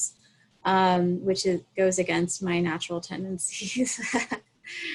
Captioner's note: chuckles